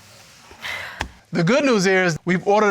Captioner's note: sighing affirmatively